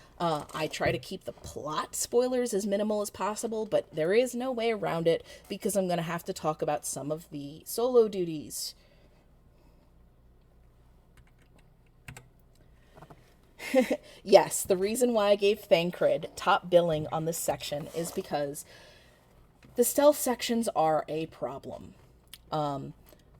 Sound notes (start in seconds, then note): 12.0 keyboard clicks; 13.6 chuckling